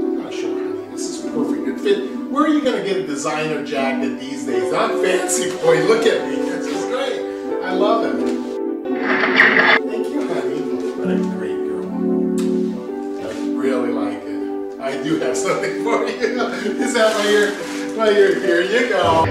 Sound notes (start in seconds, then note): 8.9 shooting sounds